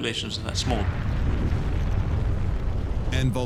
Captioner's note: deep rumble